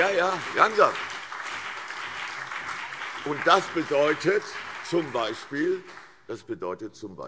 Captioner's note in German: Beifall CDU und BÜNDNIS 90/DIE GRÜNEN